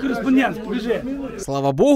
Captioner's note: voiceover